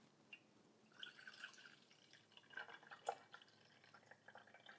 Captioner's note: liquid ripples